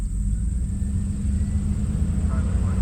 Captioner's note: vehicle engines revving